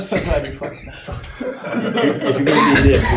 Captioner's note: laughter